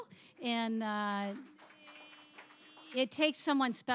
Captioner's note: applause